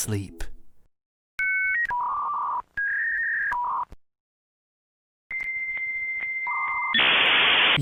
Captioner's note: internet dial-up modem squealing